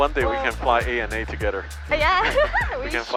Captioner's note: laughing